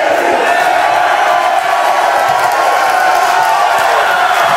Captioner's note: audience clapping